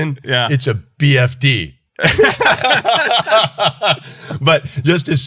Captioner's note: laughing